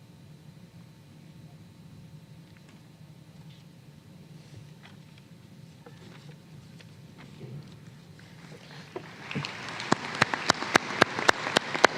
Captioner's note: applause